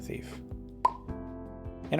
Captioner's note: pop